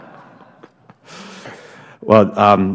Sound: laughter

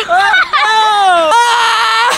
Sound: laughs

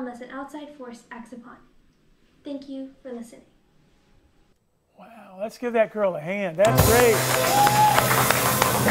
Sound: applause

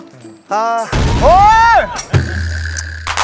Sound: explosion

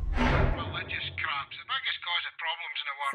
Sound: metallic sound

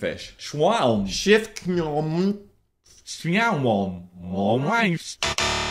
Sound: speaking backwards incoherently; audio reverses; buzzer sounds

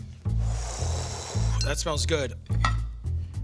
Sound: exhales; sniffs

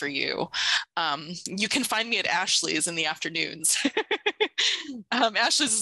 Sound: laughs

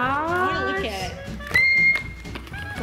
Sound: squealing

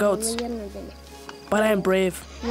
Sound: speaking in foreign language

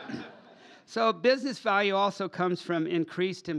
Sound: laughter

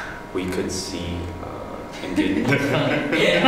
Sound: laughter

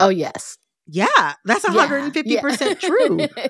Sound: laughter

